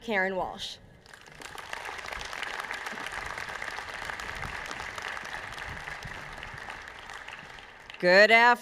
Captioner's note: applause